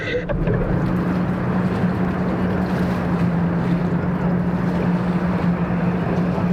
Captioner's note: water lapping; traffic droning